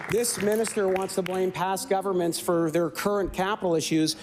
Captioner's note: applause